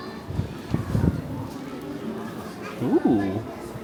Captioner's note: wind blowing